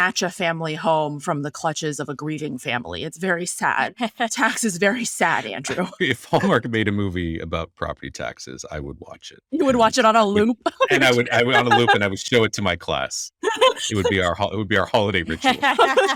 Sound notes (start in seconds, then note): 5.3 laughing; 13.4 laughing